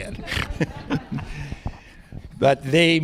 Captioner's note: laughter